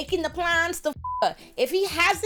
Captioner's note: beep